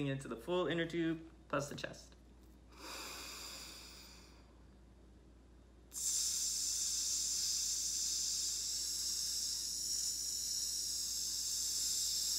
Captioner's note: inhales; hisses